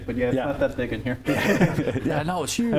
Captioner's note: laughs